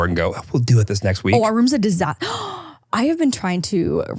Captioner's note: gasping